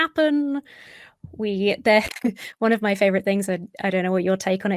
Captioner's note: chuckles